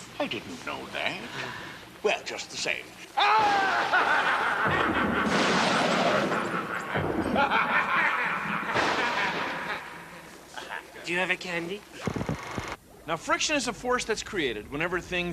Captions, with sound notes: YES. I DIDN'T KNOW THAT. WELL, JUST THE SAME-- ( evil laughter) ( thunder rumbling ) DO YOU HAVE A CANDY? FRICTION IS A FORCE THAT'S CREATED